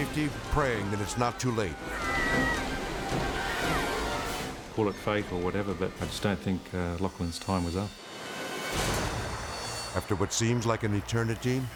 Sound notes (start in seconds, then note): 1.6 spectators shouting